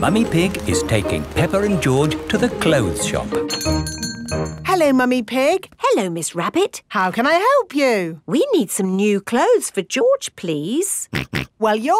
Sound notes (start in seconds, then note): 3.4 doorbell chiming